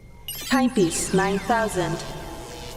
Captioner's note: robot voice